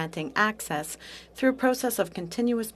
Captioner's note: speaking French